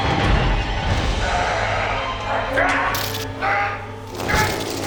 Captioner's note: ominous music; Mick groaning